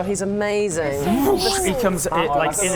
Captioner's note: woosh!